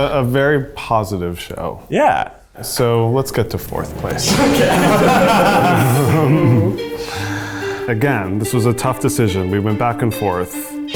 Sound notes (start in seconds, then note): 3.8 all laughing